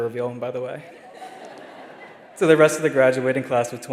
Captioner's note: attendees laughing